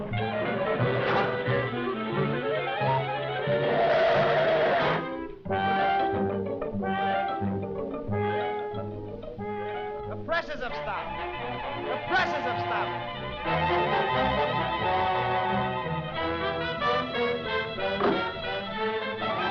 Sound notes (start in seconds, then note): 3.8 tires screeching